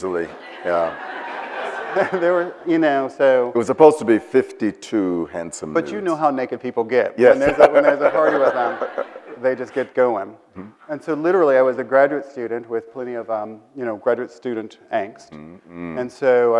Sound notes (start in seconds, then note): 0.2 audience laughs; 7.3 laughs